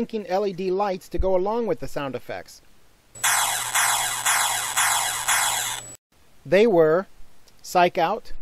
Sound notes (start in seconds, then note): 3.2 sound effects